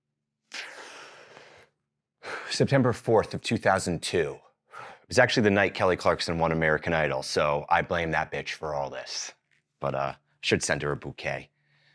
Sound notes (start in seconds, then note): 0.5 inhales